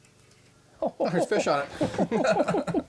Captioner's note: chuckles; laughing